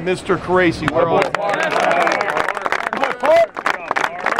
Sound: applause

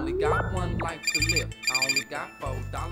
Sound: phone rings

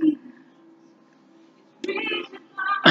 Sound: laughs

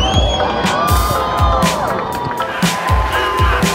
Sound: cheering

